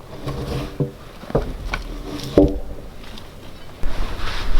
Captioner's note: log shifting